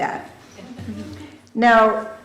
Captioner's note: laughter